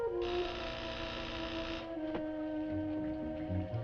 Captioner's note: door buzzing